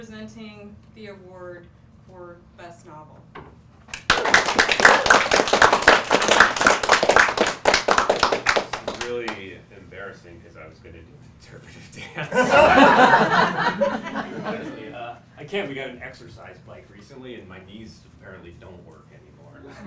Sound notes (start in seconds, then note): 3.9 applause